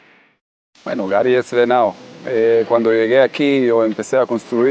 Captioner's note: speaking Spanish